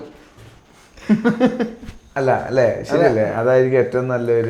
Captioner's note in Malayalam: പൊട്ടിച്ചിരി